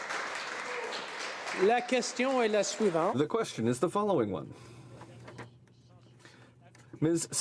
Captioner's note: applause